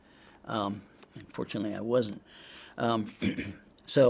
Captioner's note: clears throat